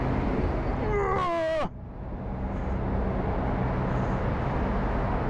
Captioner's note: grunts